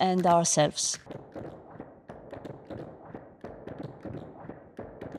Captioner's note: dancers tap dancing